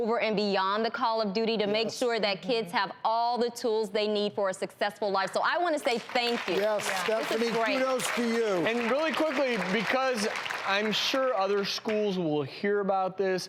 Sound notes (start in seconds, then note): 5.8 applause